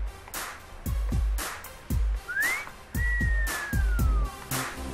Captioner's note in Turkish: Islık Sesi